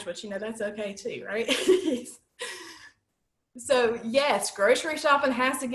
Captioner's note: laughter